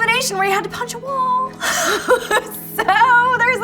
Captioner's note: laughing